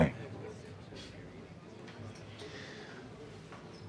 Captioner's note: breathes deeply